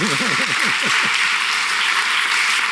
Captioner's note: applause